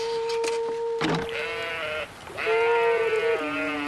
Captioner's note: sheep bleating